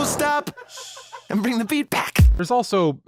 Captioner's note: basey thump